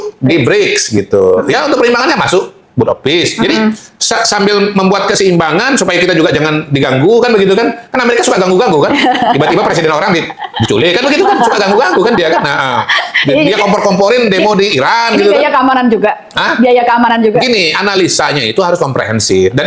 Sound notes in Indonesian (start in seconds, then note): 8.8 tertawa